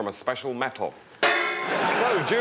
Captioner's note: clang